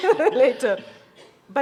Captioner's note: chuckles